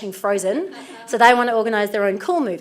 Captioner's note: audience laughs